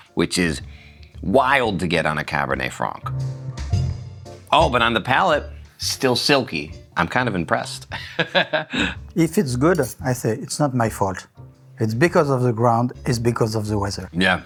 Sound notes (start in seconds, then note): 3.2 gentle music; 7.9 laughs